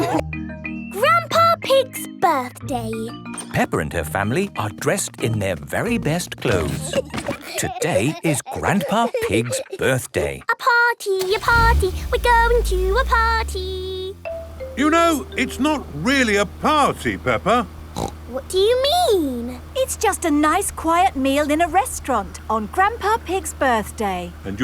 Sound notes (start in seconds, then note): 6.4 giggling; 10.3 sing song voice